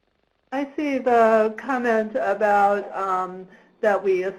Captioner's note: voiceover